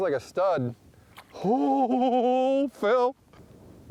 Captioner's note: incredulous gasp